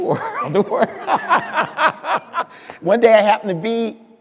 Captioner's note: speaker laughing